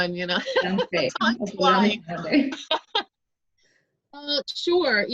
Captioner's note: laughs